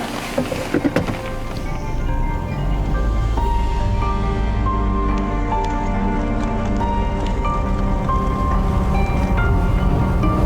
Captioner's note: car Sound; car Sound